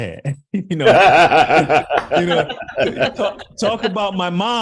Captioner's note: laughing